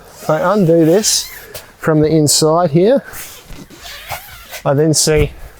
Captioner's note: zipper squealing; zipper squealing